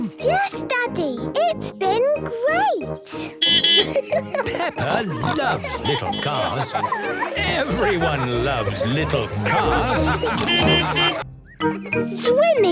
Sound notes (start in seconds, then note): 5.0 beeping and laughing; 9.4 laughter; 10.2 beeping